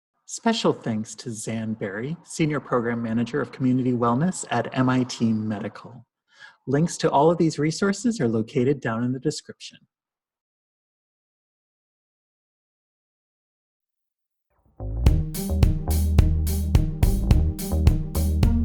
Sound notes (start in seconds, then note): 10.1 silence; 15.0 upbeat music